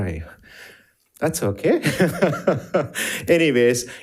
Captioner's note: laughs